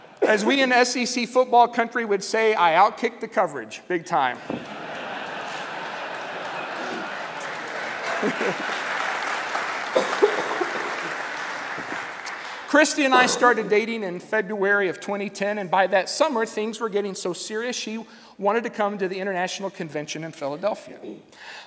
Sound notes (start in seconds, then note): 6.3 laughter; 8.3 applause